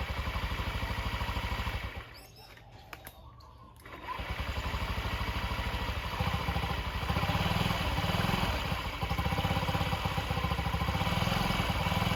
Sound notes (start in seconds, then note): 0.6 engine turning over; 6.5 engine running